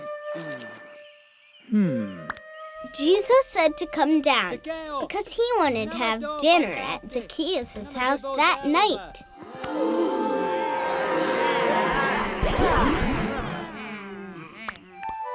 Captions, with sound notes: - [Voiceover] Jesus said to come down 'cause he wanted to have dinner at Zacchaeus' house that night. (crowd gasps)